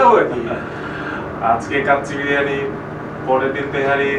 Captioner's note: laughing